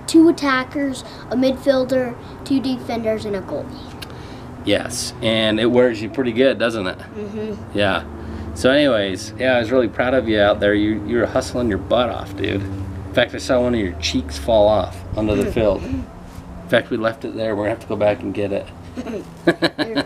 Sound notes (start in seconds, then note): 15.2 chuckling; 18.9 chuckling